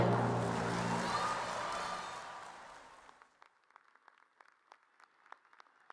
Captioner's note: audience cheers and applause